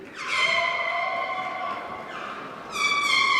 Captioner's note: applause